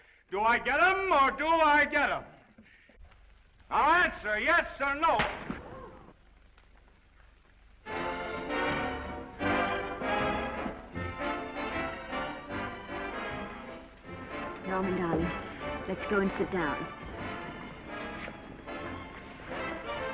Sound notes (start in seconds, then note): 5.2 hand slaps; 5.4 audience gasps; 8.2 orchestral music; 17.0 orchestral music